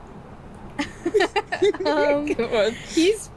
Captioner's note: both laughing